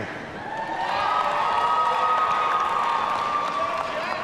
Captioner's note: audience cheering